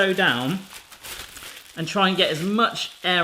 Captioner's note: rustling